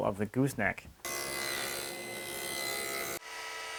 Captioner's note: quiet saw vibrations; rapid machine whirring